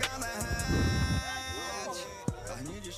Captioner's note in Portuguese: fogo crepitando